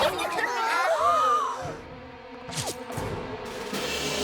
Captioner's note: all gasp